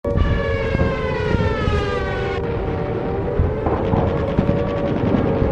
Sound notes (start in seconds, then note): 0.0 bombs dropping; 0.0 air raid siren in the background; 3.4 bombs exploding; 4.1 machine gun fire